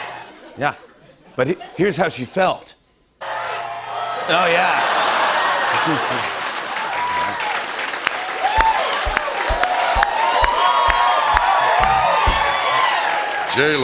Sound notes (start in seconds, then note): 4.3 crowd chanting; 7.0 cheers and applause